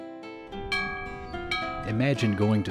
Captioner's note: school bell